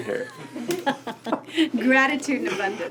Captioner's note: both laugh